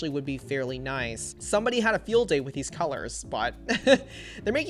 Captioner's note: laughs